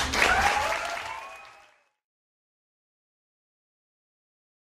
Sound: audience claps

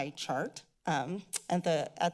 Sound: clicks tongue

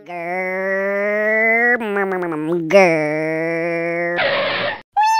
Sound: funny motor sound; skid

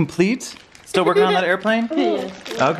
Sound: boys giggle

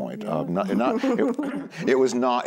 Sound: laughs

